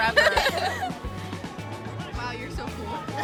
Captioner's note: laughing